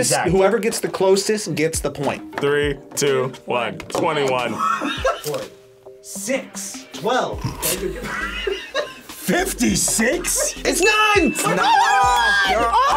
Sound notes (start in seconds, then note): 4.4 React laughs; 7.4 group laughs